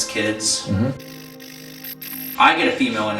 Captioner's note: static fizzing